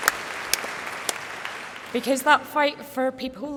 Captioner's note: applause